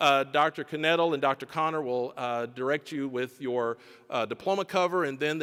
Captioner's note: none